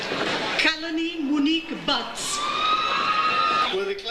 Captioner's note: audience cheers